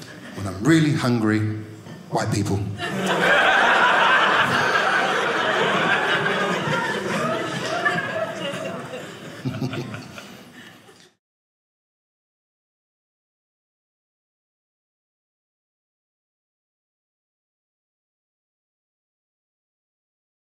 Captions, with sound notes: When I'm really hungry, White people. (audience laughing)